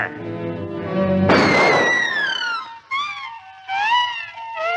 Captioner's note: gunshot sound